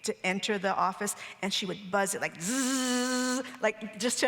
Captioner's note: imitates buzzing sound